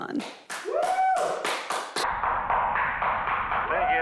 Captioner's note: man applauds